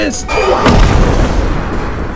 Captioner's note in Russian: Смачный взрыв